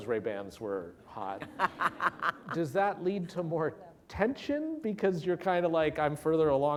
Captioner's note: laughter